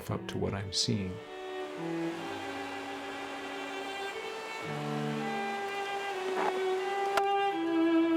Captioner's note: running river water